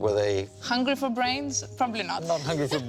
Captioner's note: laughs